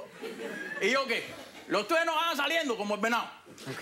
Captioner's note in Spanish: Risas